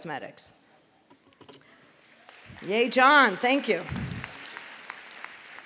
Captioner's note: applause